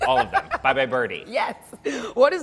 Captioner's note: laughing